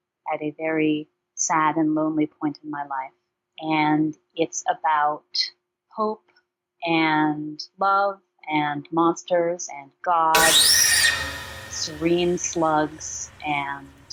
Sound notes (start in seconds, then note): 10.3 very loud screeching